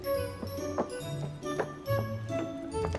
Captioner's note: footsteps